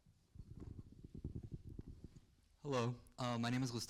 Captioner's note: wind blows in the mic